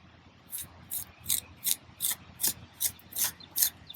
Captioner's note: trowel scraping